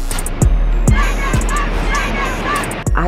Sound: chanting

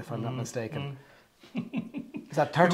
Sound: laughs

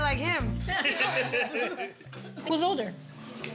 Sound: laughing

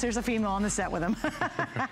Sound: laughter

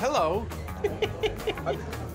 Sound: giggling

